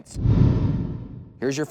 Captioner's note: swoosh